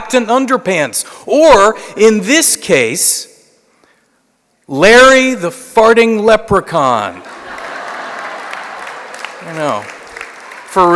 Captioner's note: laughter